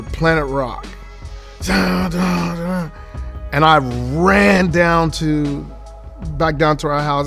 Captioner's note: humming